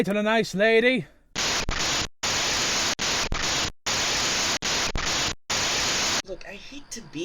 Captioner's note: crackling static plays once more